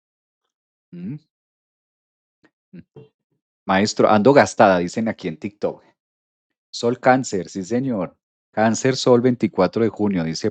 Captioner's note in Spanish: carraspeo